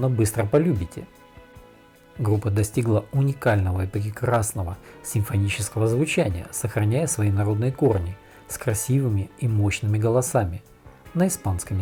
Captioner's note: in Spanish